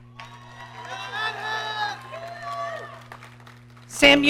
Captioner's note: audience cheering